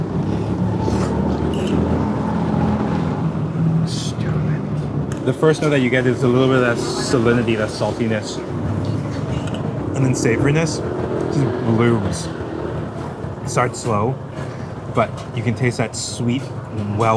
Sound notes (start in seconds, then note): 0.0 slurps; 4.0 whispering